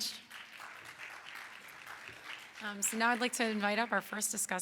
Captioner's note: audience claps